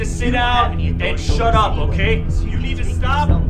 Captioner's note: Jim mutters menacingly; Jim mutters menacingly